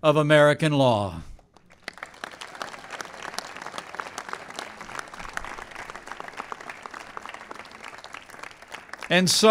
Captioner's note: applause